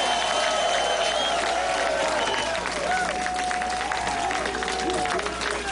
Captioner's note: applause